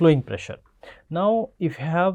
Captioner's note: pwf